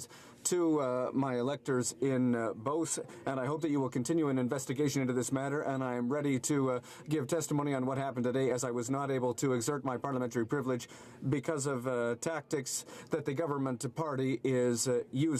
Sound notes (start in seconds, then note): none